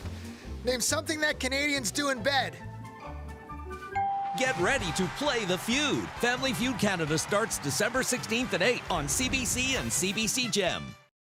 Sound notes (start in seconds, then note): 4.0 ding